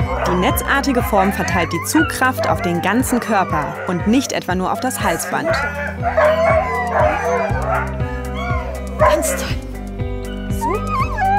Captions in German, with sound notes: Die netzartige Form verteilt die Zugkraft auf den ganzen Körper und nicht etwa nur auf das Halsband. (Lautes Jaulen) Ganz toll! Super! (Winseln)